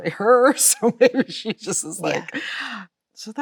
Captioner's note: Chloe laughs